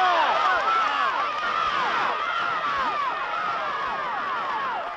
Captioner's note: shouting